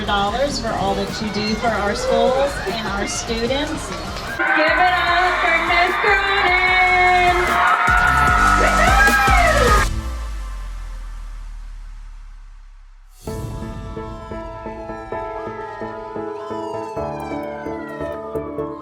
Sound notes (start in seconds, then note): 4.6 cheering; 13.7 siren wailing